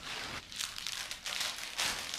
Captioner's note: rustling